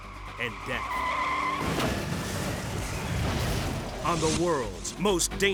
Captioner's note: tires screeching; vehicles thudding